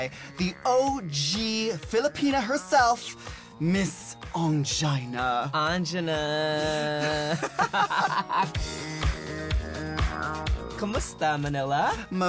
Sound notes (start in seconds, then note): 7.0 laughs